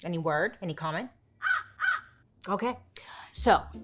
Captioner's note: crow cawing